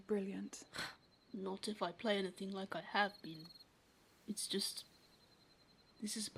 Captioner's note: James huffs